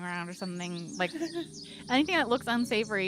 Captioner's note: Cornette laughs